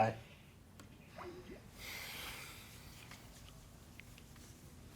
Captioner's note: sighing